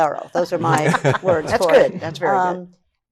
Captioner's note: laughs